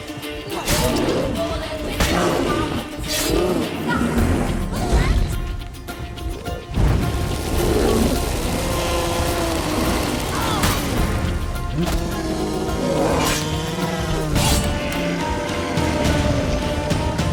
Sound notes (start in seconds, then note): 7.1 flames crackle; 15.7 bellows